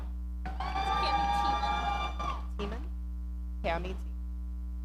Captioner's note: audience cheering